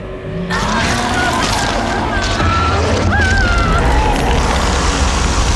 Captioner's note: rugido gutural e demoníaco; gritos de pessoas